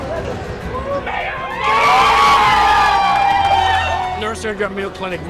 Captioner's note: group screaming and cheering